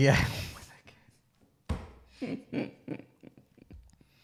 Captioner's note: murmurs